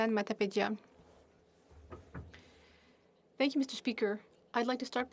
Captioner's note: speaking French